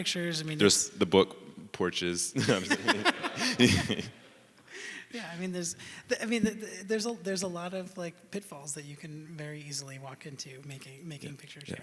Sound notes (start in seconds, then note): 2.4 everyone laughing